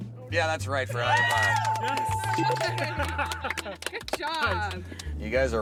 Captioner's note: bells